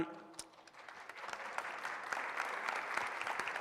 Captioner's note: applause